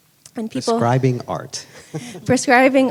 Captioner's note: chuckles